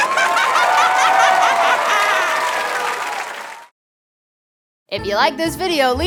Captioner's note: squawking laughter; audience cheering